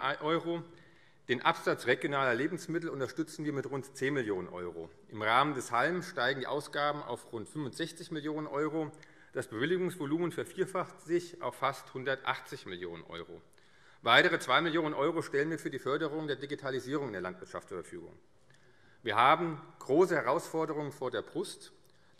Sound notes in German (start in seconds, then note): none